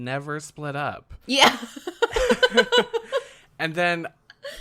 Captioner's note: laughs